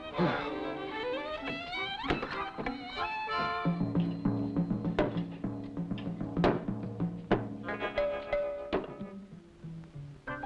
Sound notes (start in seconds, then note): 0.0 sighing